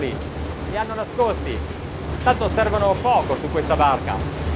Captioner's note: speaking in foreign language